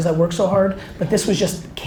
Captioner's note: none